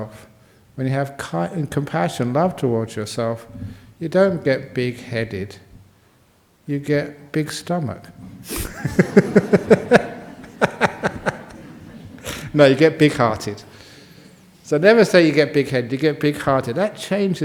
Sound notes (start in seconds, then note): 8.5 laughter